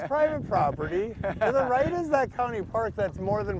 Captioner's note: laughs